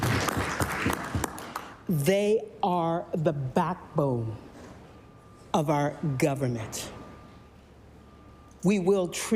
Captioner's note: applause